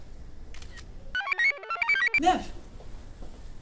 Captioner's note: shutter snaps; computer chirps